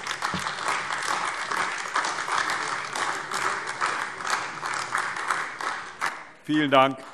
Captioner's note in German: Beifall AfD